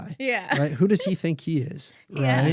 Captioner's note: laughs